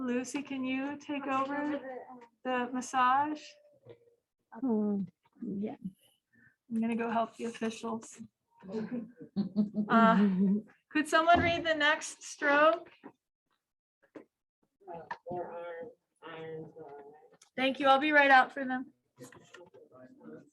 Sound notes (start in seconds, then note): 8.7 laughter